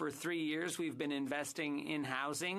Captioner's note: speaking French